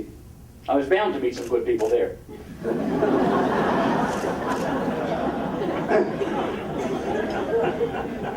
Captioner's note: audience laughing